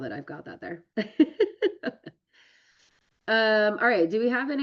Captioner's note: laughs